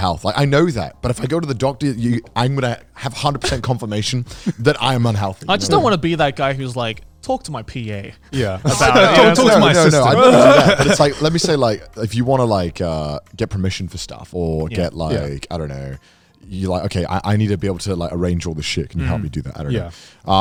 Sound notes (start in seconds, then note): 8.3 gags